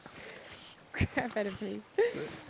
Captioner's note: laughing